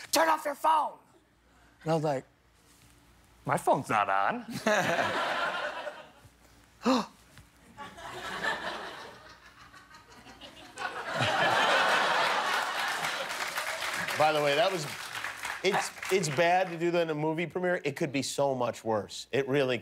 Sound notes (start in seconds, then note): 7.7 laughter; 15.8 applause